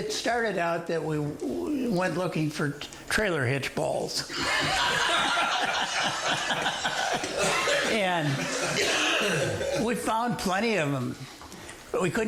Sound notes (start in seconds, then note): 4.3 all laughing